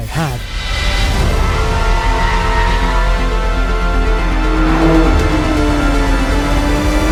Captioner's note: uplifting music; engine revving